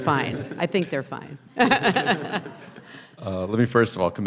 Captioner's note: laughing